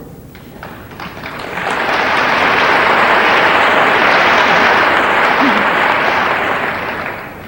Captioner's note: audience applauding